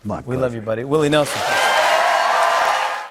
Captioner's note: cheers and applause